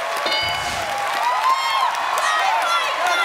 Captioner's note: cheering and applause